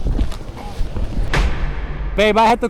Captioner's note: loud clap